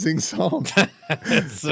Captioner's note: laughing